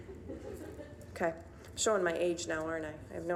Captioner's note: audience laughing